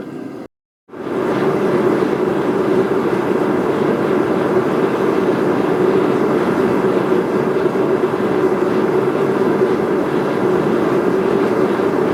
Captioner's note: sound from forge